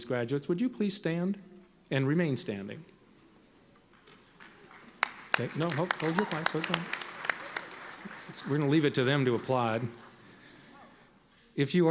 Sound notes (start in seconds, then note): 4.0 soft applauding